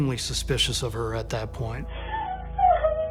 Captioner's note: crying